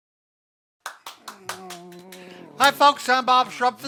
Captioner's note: clapping